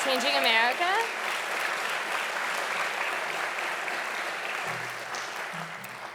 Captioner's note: audience applauding loudly